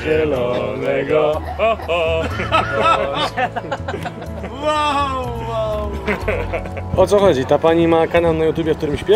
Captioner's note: laugh